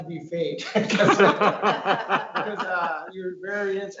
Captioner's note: laughs